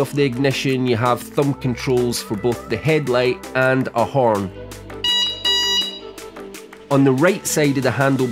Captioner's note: beep beep